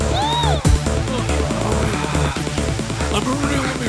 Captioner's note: moaning